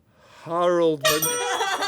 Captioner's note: honk